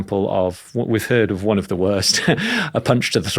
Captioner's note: chuckles